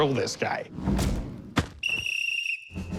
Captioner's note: whistle blowing